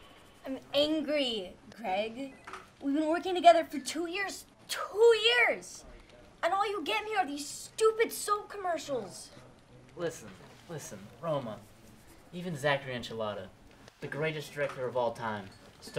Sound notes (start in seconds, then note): none